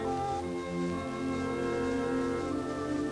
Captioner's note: none